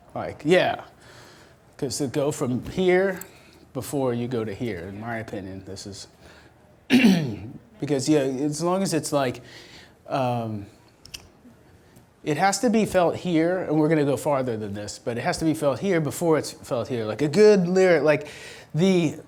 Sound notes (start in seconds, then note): 6.9 coughs